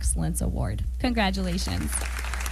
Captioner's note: applause